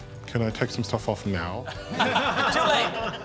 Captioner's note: all laughing